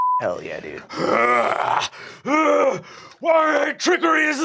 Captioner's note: beeping; groaning